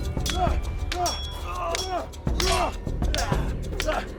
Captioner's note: both moaning; swords clanging; dramatic music